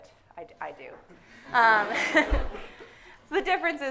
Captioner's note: audience laughing; laughs